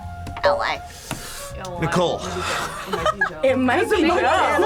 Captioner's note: laughs